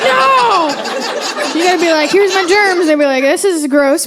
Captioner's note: audience laughing